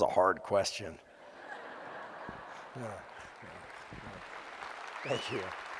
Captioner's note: audience laughing & applauding